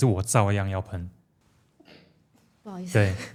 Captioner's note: achoo